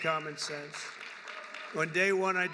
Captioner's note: applause